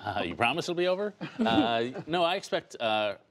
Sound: laughter

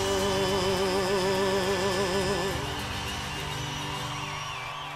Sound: audience applauding

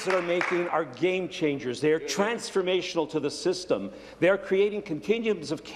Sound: applause

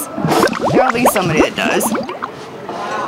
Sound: bubbling

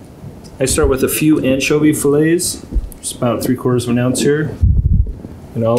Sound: none

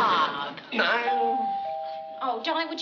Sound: door bell

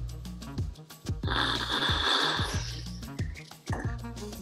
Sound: slurping

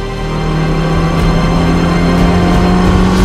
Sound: engine sound

